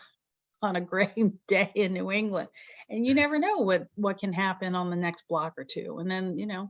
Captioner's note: chuckles